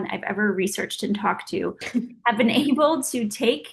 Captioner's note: Oksana laughing